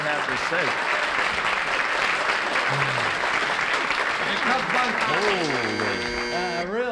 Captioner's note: applause; buzzer rings